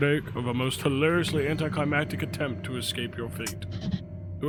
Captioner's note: none